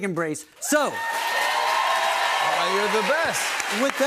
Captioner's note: cheers and applause